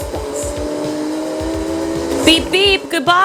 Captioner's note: car engine roaring